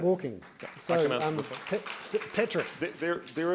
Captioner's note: applause